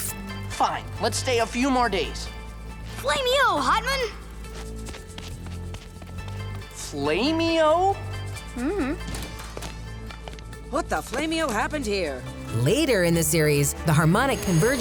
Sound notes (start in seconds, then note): none